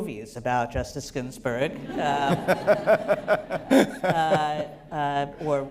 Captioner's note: laughter